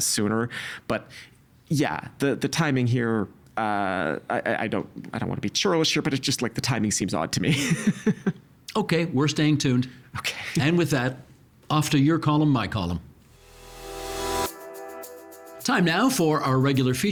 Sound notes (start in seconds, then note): 9.4 laughing